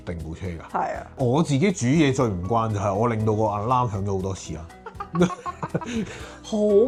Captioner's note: haha